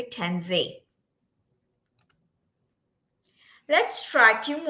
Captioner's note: silence